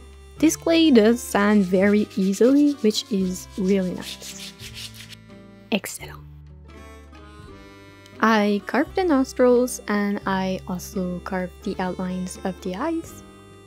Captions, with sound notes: This clay does sand very easily which is really nice. Excellent! (in french) I carved the nostrils and I also carved the outline of the eyes.